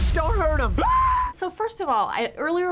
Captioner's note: screaming